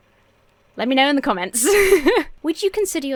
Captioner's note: laughs